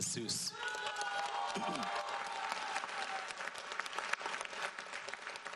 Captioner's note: audience applauds